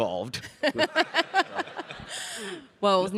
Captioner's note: laughs